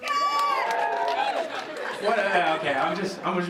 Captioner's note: clapping and cheering